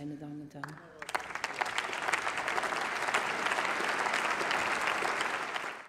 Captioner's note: Applause by CDU and SPD and members of the Greens